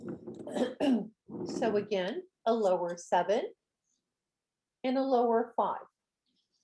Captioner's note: clears throat